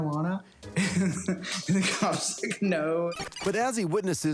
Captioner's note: chuckling